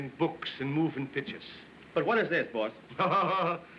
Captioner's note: chuckles